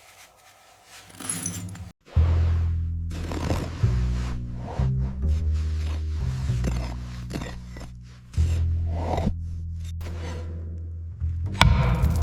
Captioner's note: metal clinking